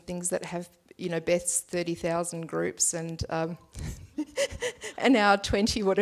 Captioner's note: laughs